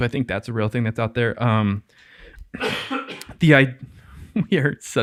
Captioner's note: innocent coughing